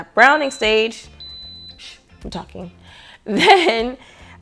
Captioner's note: beeping buttons